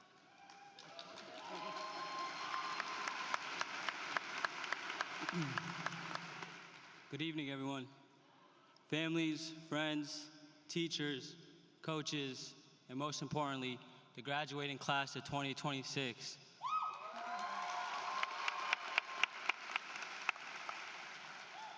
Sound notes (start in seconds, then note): 0.0 applause; 19.2 applause